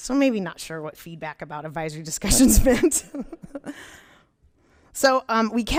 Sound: laughs

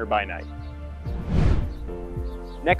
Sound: swooshing sound

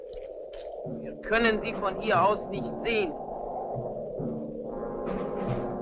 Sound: speaking in a foreign language

